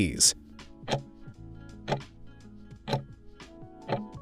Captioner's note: timer ticking